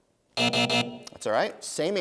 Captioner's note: buzzing